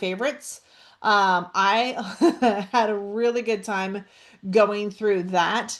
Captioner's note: laughs